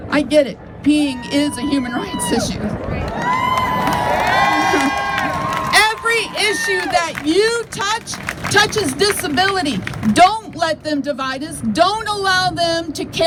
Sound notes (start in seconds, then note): 3.5 crowd cheers